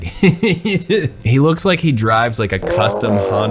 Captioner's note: laughs